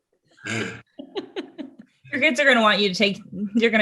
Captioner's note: laughs